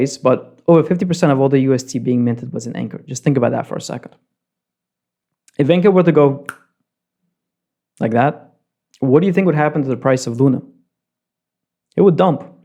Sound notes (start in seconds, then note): 6.4 snap